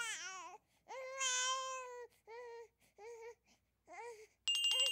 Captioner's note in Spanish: Llanto del bebé